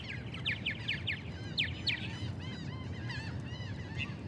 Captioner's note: gulls crying